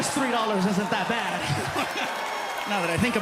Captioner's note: laughs